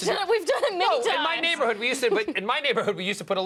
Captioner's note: laughter